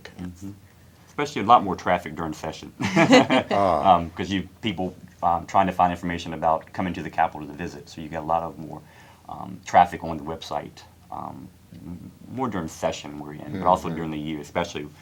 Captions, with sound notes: Because I would imagine it's got to be perhaps, along with tourism, the two state sites that really get the traffic. - Especially a lot more traffic during session. [CHUCKLES] - Ah. - 'Cause you-- people trying to find information